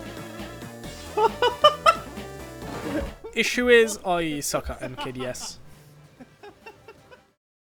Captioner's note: laughter